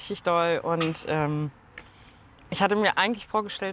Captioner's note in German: Erschöpftes Ausatmen